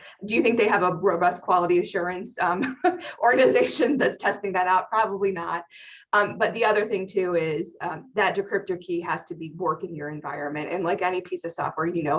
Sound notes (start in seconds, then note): 3.0 laughs